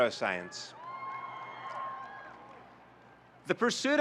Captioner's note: audience cheering